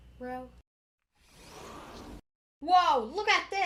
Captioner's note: that's a sliding door sound